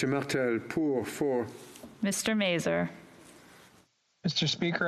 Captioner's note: speaking French